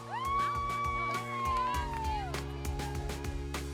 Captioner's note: team cheering